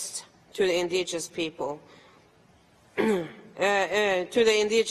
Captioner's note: clears throat